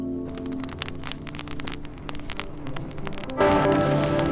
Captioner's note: fire crackling